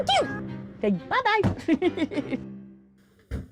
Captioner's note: laughs